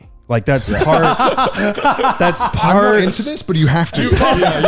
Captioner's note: laughing